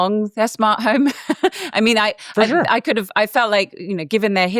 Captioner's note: laughs